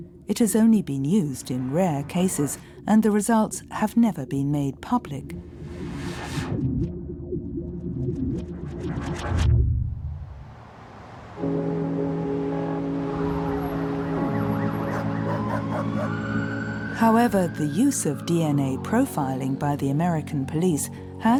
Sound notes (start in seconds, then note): 5.3 eerie electronic music; 11.7 soft orchestral music; 15.5 sirens wailing